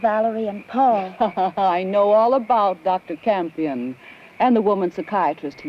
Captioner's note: laughs